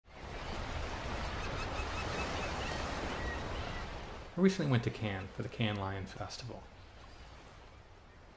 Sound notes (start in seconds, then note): 0.1 waves crashing; 0.2 birds chirping